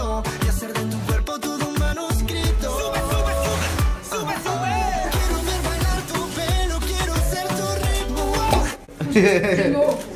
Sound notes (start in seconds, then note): 7.4 candy bottle pops; 9.0 giggles